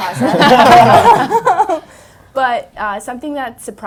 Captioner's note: panel laughs